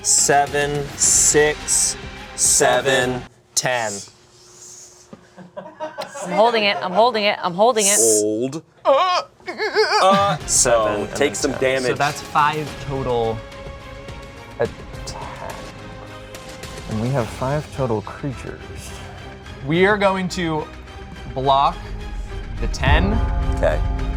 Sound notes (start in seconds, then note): 5.8 crew laughing; 9.4 grunting